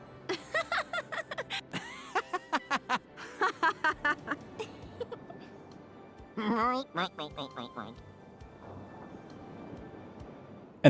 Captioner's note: group takes turns laughing